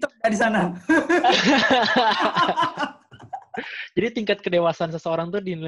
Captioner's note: laugh